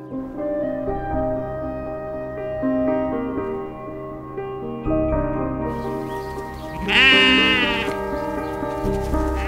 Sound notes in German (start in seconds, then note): 0.1 Nachdenkliche Musik; 6.7 Lautes Blöken